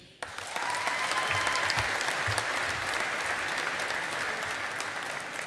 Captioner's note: audience applauding